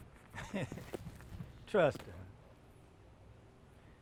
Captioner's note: laughing